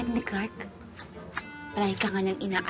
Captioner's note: snipping